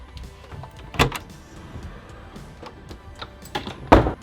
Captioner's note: door clicks; door slams